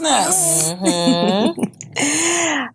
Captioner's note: chuckles